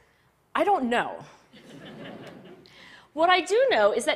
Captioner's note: Laughter